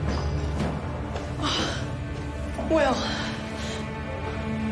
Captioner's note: sighs